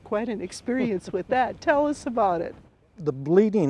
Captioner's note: chuckles